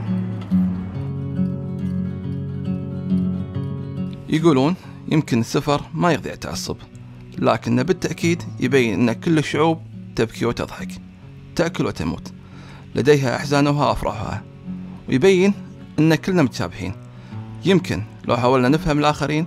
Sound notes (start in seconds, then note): 0.2 calm music; 4.3 speaking foreign language